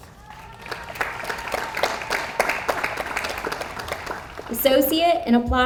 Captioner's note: audience applauds